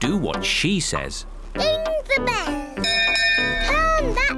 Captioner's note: rings bell